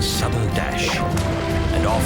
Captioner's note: whip cracks